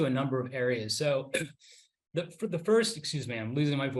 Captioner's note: coughs